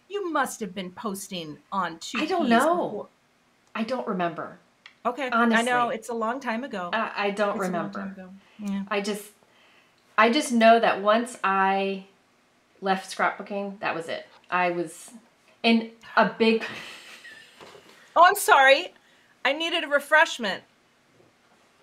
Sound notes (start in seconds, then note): 16.6 laughing